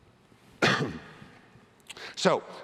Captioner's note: cough